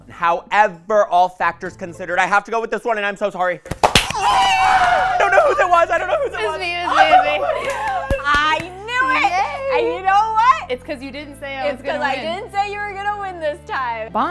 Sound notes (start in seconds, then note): 3.9 groaning; 4.1 cheering